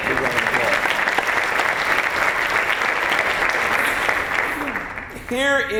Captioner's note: applause